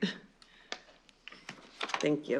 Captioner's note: laughs